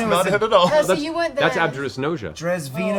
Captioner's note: chuckles